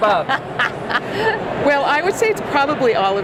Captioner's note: laughs